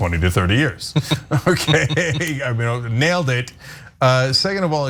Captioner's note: laugh